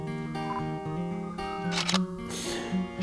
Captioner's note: camera shutter sounds